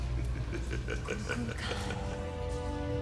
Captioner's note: low laughing